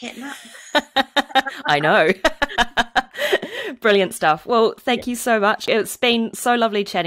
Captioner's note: laughs